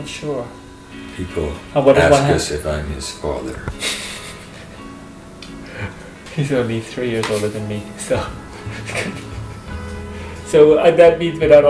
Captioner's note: laughs